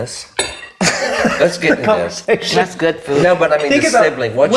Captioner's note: laughs